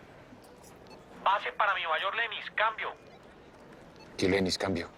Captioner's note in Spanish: Voz en la radio